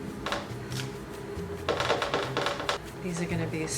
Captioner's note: cookie sheet rattling